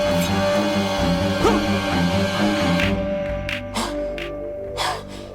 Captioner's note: gasps